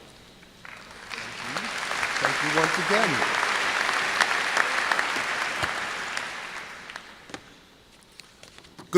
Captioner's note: applause